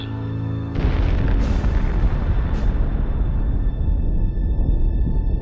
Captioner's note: explosion rumbles